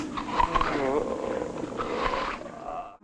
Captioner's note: chewing noises